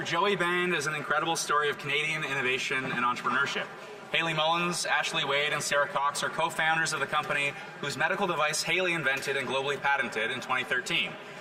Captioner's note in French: voix de l'interprète